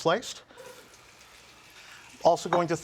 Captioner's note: pan sizzling